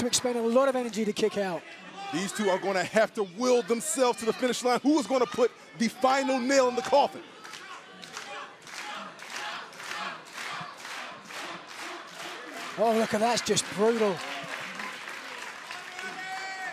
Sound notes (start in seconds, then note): 10.9 fans chanting